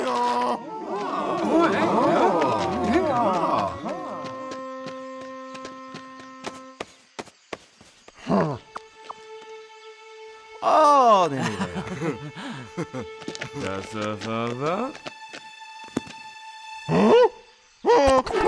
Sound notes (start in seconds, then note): 0.0 colt braying; 0.4 crowd speaking gibberish; 8.4 colt grunting; 10.6 Jesus exclaims with approval; 11.3 disciples laugh nervously; 13.8 speaks gibberish; 17.1 gasps in surprise; 18.2 frantic braying